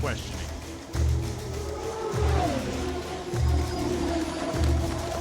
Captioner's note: drone buzzes